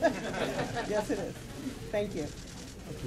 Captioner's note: laughter